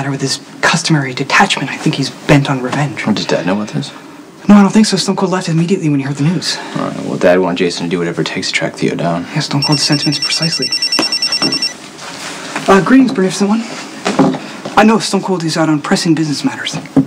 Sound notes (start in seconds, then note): 11.3 cell phone rings